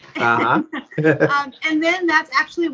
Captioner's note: laughs